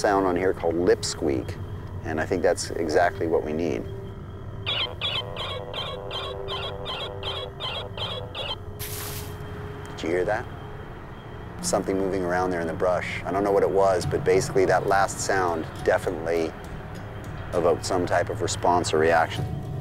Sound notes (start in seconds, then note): 4.6 animal squeaking; 8.8 brush rustling